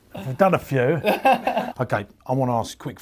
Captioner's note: laughs